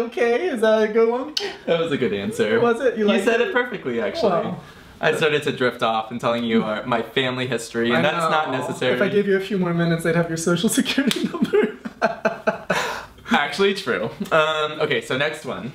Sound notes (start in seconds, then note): 11.0 laughs